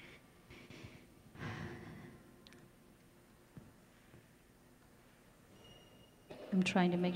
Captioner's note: silence